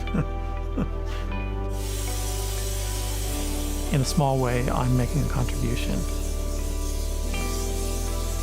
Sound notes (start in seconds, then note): 0.0 chuckles